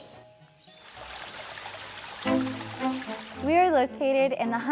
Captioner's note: water burbling